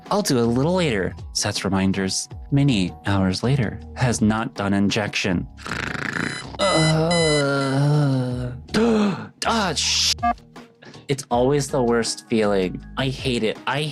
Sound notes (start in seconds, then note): 5.6 snoring; 5.6 groaning; 7.4 gasping